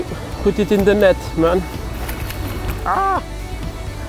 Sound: mówi po francusku

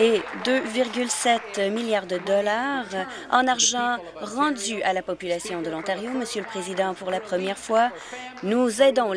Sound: applause

